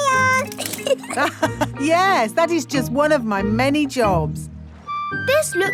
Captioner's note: laughs